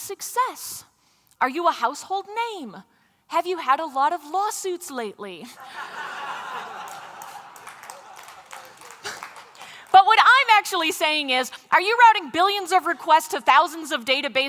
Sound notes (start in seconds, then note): 5.5 laughter; 6.4 applause